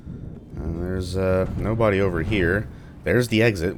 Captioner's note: thunder